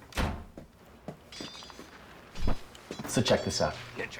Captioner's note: door Closes; door Opens; swords Clanging